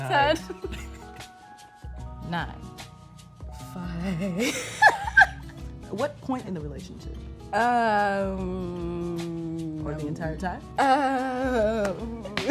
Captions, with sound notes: - Nine. - Ten. (couple laughs) - Nine. - (nervously laughing) Five. - What point in the relationship? - Um... - Or the entire time? - Uh...